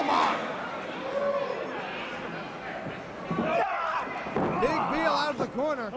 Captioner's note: crowd chatter